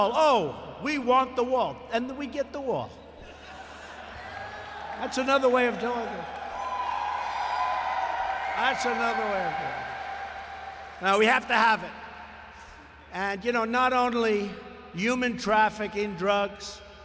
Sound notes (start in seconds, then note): 3.2 laughter and applause; 5.2 applause